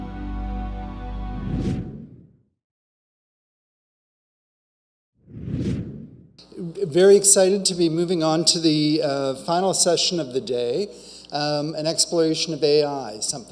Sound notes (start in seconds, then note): 1.4 logo whooshing